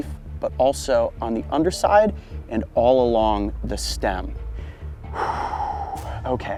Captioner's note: exhales